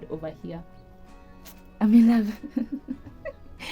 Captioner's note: laugh